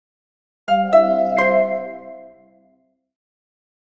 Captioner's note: Chime Bell